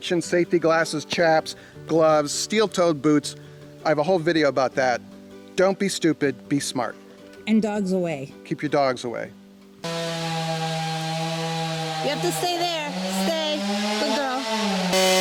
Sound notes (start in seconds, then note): 9.8 electrical sawing